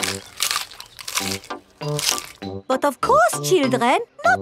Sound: munching

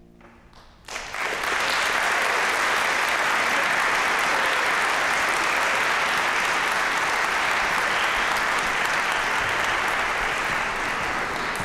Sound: applause

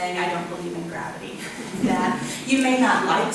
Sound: audience chuckles

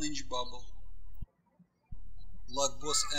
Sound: birds chirping

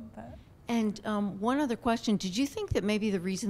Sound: voiceover

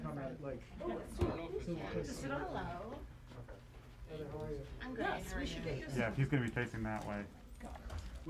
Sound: indistinct chatter

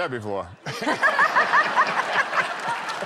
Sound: laughter

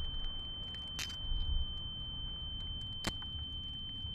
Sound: muffled clicking

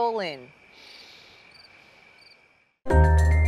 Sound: inhales deeply

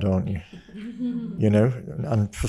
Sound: guests chuckle

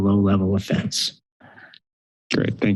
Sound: silence

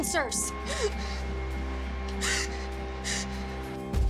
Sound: Kyle gasping

